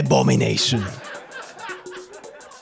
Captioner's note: laughter